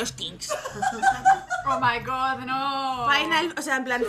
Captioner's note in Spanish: risas